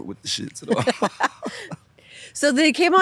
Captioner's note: both laughing